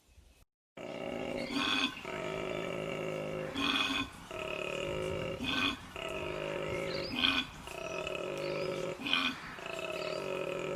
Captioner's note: freaky koala mating call noise plays again